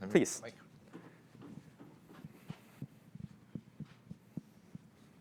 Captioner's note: feet thudding